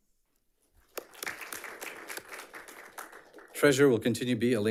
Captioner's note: audience applauds